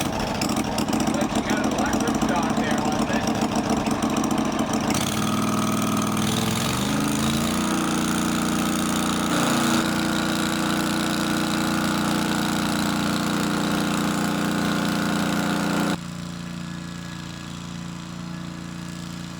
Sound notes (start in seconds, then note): 0.0 sawmill engine starting; 10.0 sawing noise